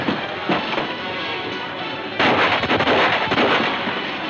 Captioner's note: gunfire pops